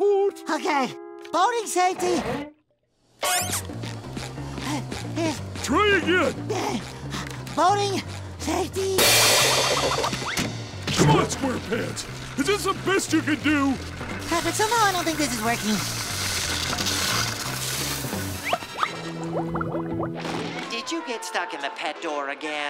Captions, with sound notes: Okay. Boating safety... [squeaking] [panting] Try again. [panting] Boating... safety-- Come on, SquarePants! Is this the best you can do? Patrick, somehow I don't think this is working. Did you get stuck in the pet door again?